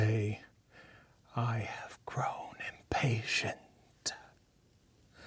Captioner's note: whispering in character